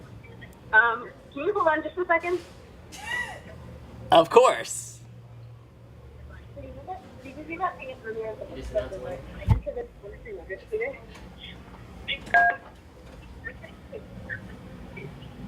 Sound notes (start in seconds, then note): 12.5 phone beep